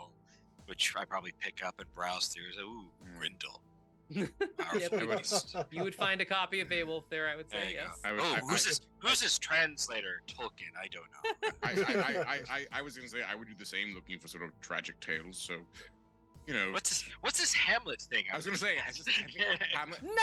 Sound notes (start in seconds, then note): 4.1 laughing; 11.0 laughing